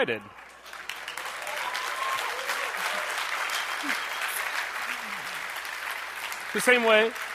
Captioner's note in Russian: бурные аплодисменты